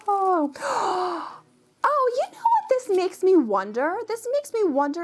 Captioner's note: gasps